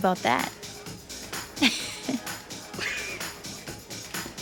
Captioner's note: laughing